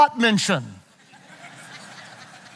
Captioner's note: audience laughing